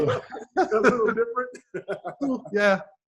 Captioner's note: laughs